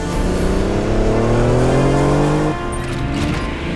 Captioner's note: engine revving